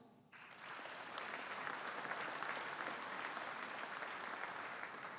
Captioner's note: audience applauding